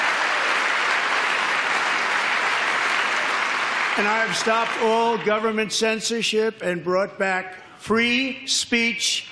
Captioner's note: applause